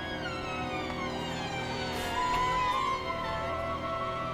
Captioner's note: suspenseful foreboding music; door screeching